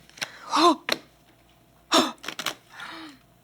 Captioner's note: gasping